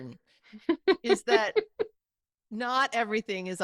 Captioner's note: chuckling